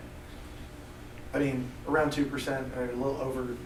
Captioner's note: voiceover